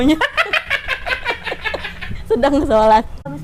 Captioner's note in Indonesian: Laughing